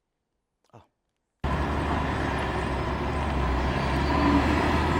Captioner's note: cars driving